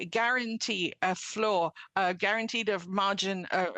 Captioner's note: speaking French